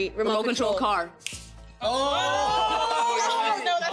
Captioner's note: snapping